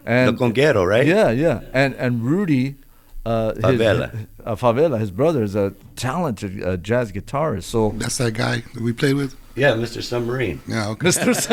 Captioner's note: laughter